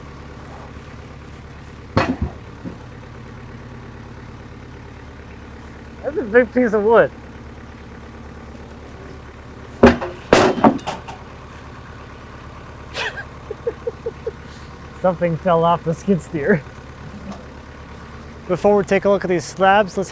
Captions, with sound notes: (wood thuds) (engine revving) This is a big piece of wood. (wood thuds) Something fell off the skidsteer. Before we take a look at these slabs,